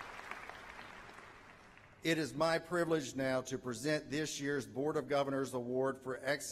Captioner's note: applause